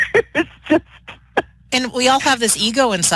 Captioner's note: laughter